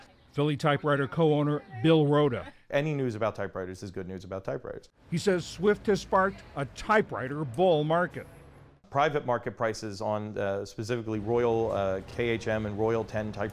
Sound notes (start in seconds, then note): 0.6 voice-over; 5.5 voice-over